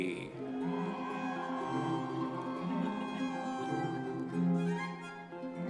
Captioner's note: audience members cheering